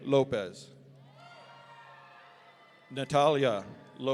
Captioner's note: audience cheering